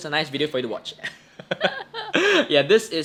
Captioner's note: both laugh